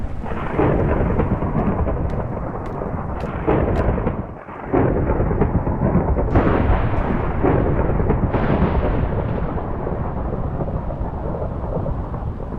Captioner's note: thunder